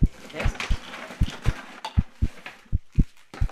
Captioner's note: rapid heart beats